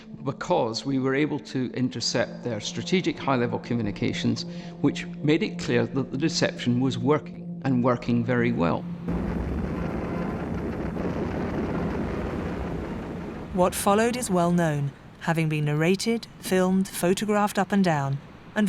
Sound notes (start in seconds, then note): 9.1 gunfire booming; 10.7 dramatic music